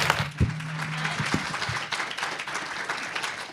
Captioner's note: applause